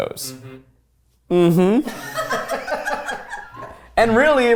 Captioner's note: everyone laughs